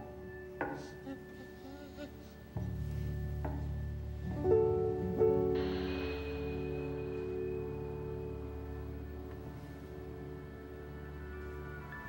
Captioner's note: baby chattering